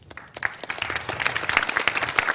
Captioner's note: clapping